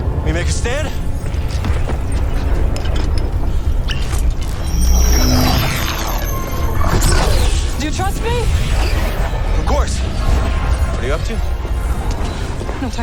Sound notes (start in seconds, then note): 3.1 magick Noises